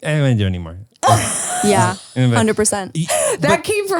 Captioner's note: laughs